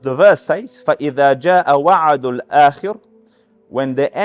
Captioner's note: Arabic